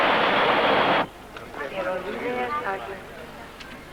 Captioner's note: Spanish announcement over Tannoy